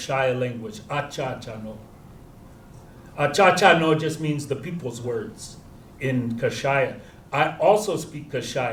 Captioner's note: non-english